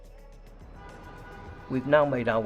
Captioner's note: car horns honking